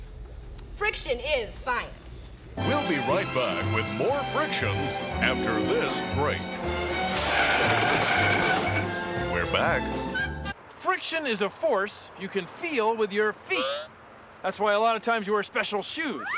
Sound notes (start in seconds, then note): 5.2 tires screech